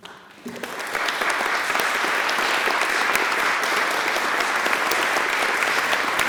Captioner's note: applause